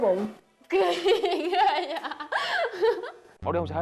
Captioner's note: laughing